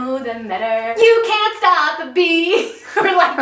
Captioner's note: laughing